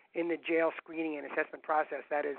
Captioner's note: none